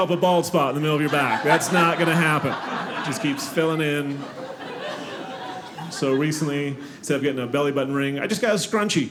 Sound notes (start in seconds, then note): 3.7 audience laughing